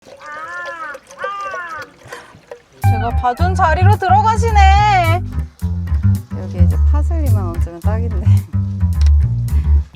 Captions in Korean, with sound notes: (까마귀 까으악 깍 거리는 소리) 제가 봐둔 자리로 들어가시네~!! 여기에 파슬리만 얹으면 딱인데